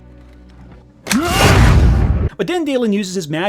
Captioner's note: snaps